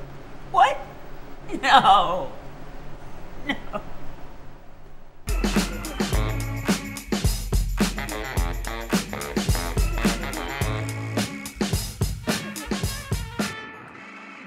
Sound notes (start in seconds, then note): 1.5 sobbing